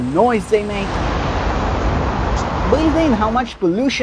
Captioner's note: car noise intensifies